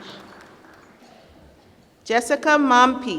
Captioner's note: applause